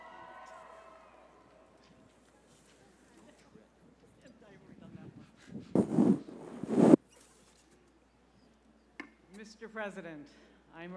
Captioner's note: applause